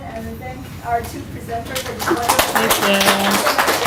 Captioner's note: clapping